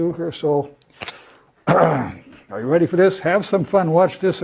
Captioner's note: cough